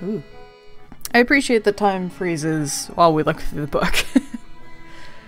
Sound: laughs

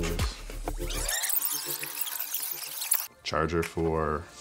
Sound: fast-forward screeching

